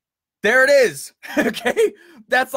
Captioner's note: laughs